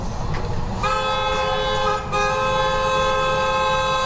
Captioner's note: car horn